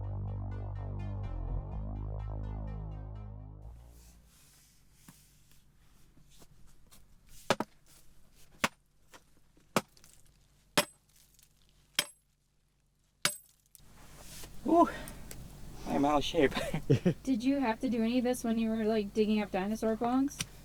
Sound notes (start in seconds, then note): 0.0 dramatic music; 8.4 pickaxe clanging